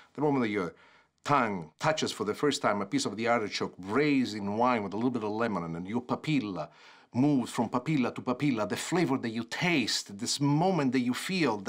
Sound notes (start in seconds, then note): 6.0 foreign language